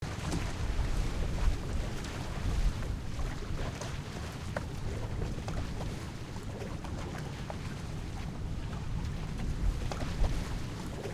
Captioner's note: tide sound